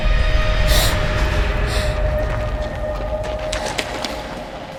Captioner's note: Christina gasps